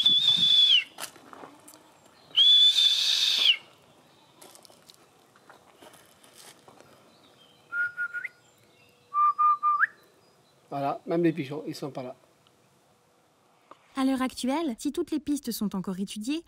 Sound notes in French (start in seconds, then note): 2.3 sifflement